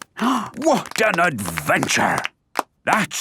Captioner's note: applause